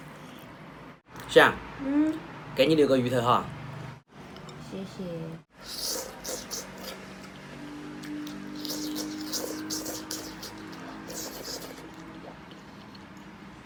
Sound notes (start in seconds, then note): 8.0 pleasureful slurping noises; 10.9 big slurp